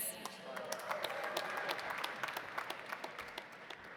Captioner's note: audience applauding